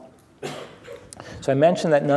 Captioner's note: someone coughs